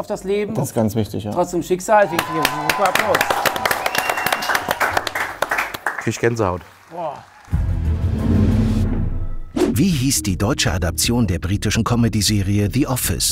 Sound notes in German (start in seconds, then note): 2.0 Applaus, Jubel, Pfiffe; 7.6 Geheimnisvolle Musik